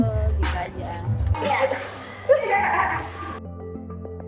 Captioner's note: laugh